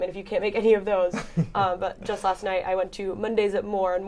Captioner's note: laughter